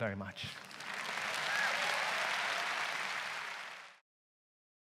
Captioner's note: audience applauds loudly